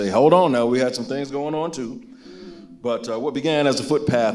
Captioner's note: none